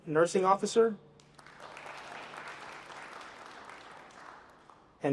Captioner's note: applause